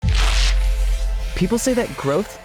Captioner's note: ambient music; pages tearing